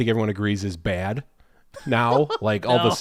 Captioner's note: laughs